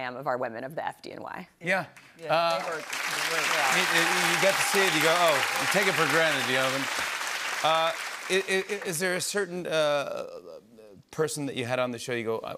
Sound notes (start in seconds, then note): 2.3 applause